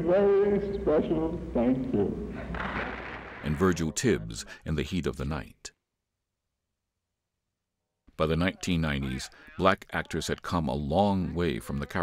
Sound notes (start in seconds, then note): 2.6 applause